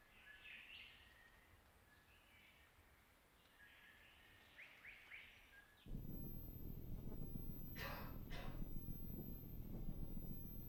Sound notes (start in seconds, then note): 7.6 white noise